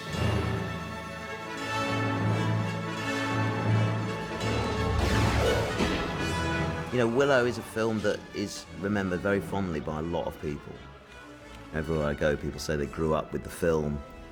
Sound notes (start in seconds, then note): 4.2 thunderclap; 4.2 roars